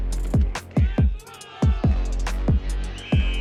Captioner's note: background chatter